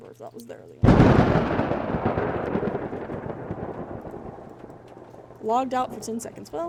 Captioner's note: thunder